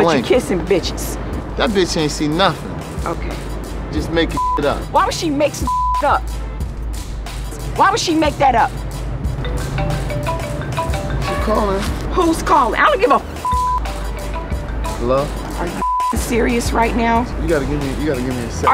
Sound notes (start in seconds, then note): 5.6 beep; 9.9 cellphone rings; 13.4 beep; 15.8 beep